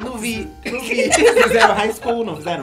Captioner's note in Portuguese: risos